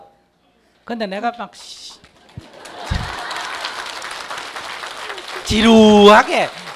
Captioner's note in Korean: 청중 박수